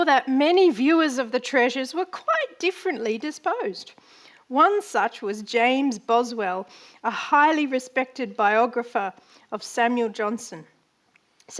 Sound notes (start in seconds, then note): none